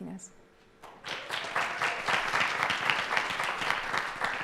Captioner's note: applause